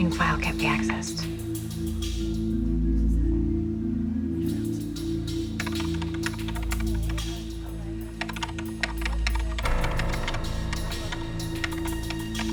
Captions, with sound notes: - What do you mean, file can't be accessed? (keyboard clacking) (tense music)